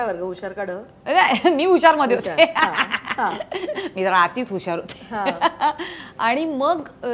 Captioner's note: Chuckles